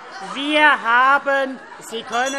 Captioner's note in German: Anhaltende Unruhe - Glockenzeichen